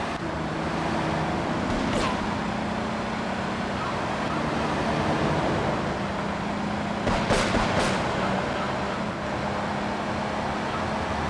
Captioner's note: gunshot